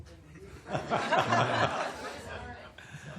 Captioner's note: laughter